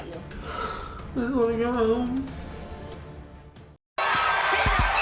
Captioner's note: sniffling